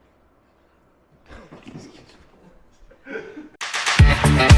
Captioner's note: laughing